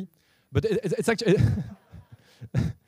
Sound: laugh

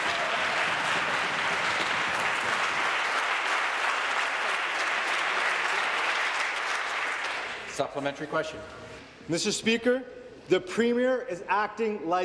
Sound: applause

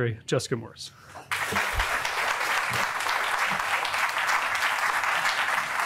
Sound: audience applauding

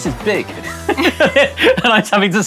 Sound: both laugh

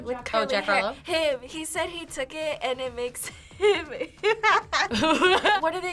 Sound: laughs

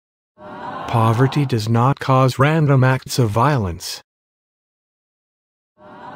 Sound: audience ahh; audience ahh

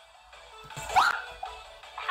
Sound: screams

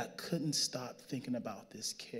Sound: none

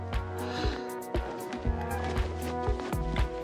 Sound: sighs

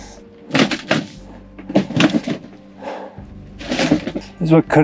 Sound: wood cracking

